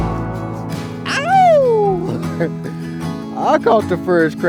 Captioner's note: man shouts